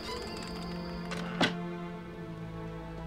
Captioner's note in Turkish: Kapı kapanma sesi